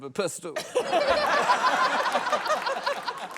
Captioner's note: laughter, applause